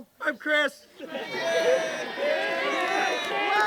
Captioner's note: cheering